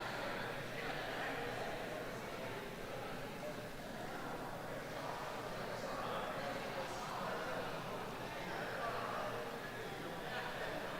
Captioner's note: background Chatter